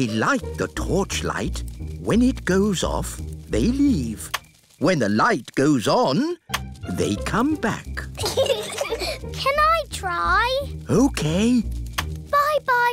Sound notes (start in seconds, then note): 8.1 peppa and george giggle